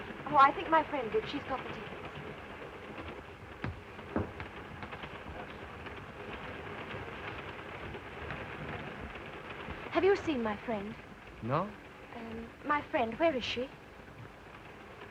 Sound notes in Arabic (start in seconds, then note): 3.7 صوت خشخشة القطار